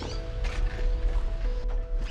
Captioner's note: knocks